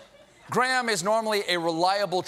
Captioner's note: laughter